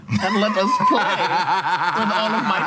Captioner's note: laughing